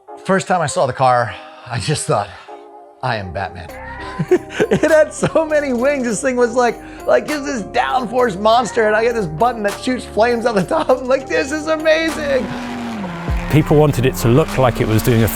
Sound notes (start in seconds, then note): 3.9 laughing; 11.6 car engine roaring